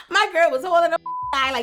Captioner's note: beep